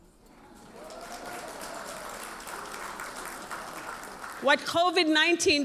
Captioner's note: audience applauds